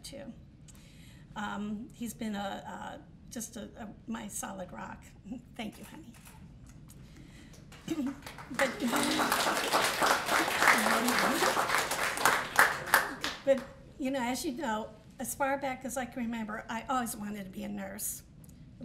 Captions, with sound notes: too. He's been just my solid rock. Thank you, honey. [APPLAUSE] But as far back as I can remember, I always wanted to be a nurse.